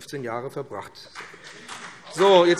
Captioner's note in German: Beifall BÜNDNIS 90/DIE GRÜNEN, CDU und vereinzelt SPD - Zurufe AfD